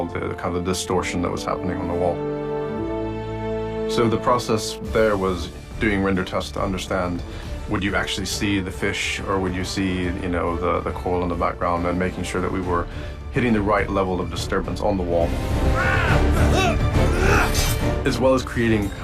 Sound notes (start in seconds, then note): 14.9 yelling; 15.7 gasps